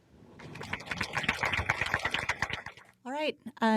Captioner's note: applause